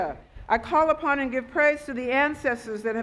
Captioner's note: speaking Foreign Language